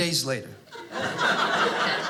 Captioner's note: audience laughing